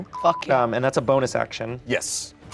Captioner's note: beep